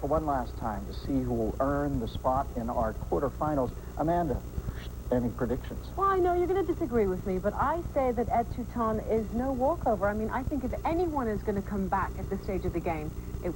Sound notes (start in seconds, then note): none